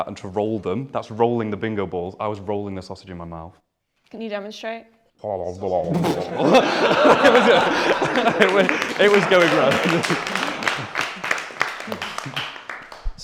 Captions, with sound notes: and to roll them, that's rolling the bingo balls. I was rolling the sausage in my mouth. Can you demonstrate? (mouth noises) (laughter) It was going round! (applause)